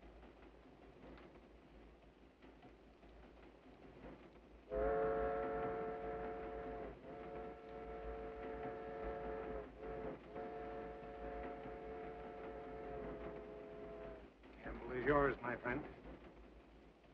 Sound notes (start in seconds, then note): 6.6 train horn whistles